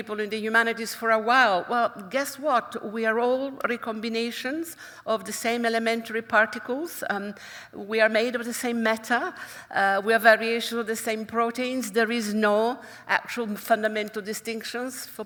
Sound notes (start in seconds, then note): none